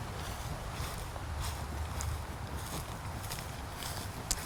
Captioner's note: leaves crunch